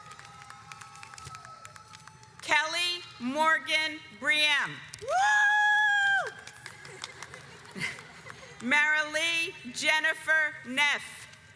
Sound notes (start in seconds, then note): 0.0 audience applauds; 5.8 yells; 7.7 audience applauds